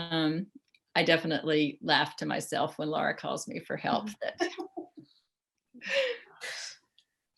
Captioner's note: laughter